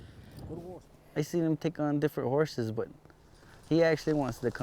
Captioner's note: none